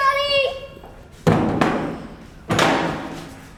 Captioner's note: door shuts close